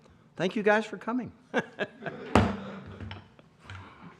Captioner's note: laughter